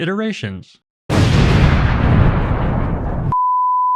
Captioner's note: explosion sound effect